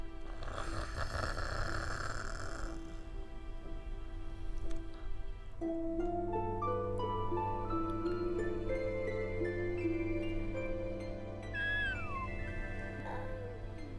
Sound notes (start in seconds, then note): 0.3 Phoebe snoring; 6.4 pleasant music playing; 10.8 Phoebe yawning